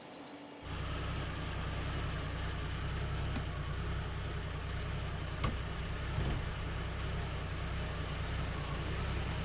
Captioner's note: car engine running